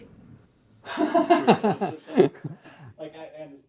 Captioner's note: laughter